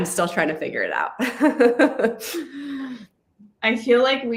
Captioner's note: laughs